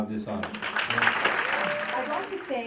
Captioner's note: applause